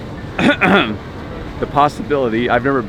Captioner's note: clears throat